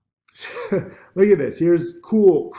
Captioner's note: hysterical laughter